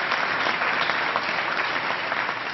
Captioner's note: applause